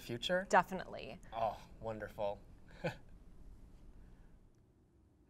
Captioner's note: laughs